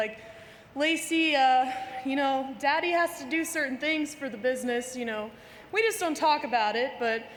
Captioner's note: none